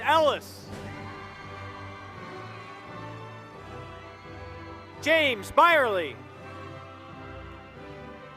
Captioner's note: applause